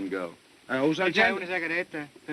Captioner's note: speaking italian